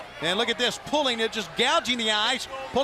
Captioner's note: crowd chatter